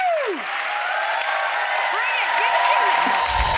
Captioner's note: audience cheering